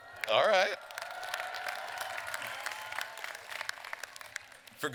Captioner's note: more cheers and applause